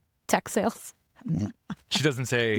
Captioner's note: laughing